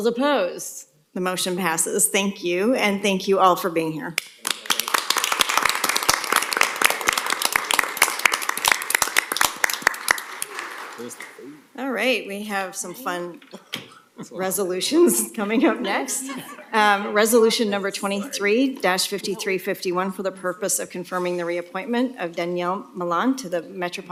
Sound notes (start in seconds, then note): 8.8 applause